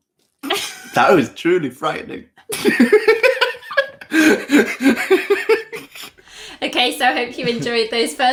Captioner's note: laughter